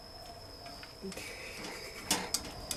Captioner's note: laugh